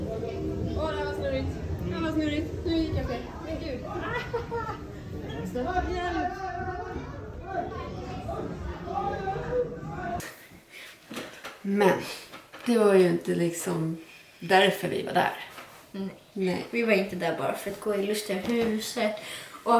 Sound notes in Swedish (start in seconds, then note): 3.8 Skrattar